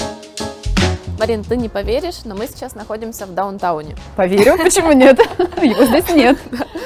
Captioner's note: laughing